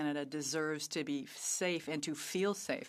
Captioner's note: speaking French